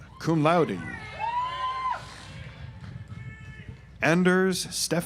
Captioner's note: audience applauds